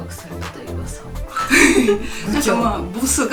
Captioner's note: laugh